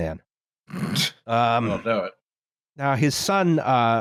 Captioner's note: snorts